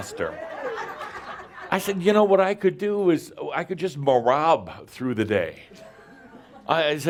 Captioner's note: laughter